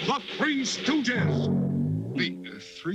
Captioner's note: booms